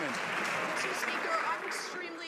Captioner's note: some Applause